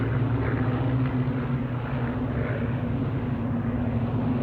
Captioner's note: plane engines rumbling